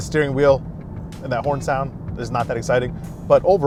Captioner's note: horn honks